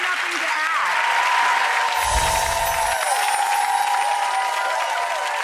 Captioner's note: cheers and applause